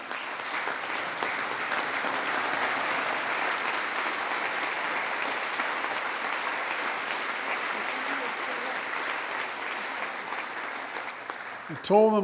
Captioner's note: applause